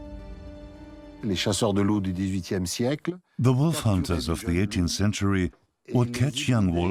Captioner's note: French dubbed into English